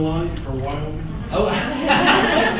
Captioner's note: all laugh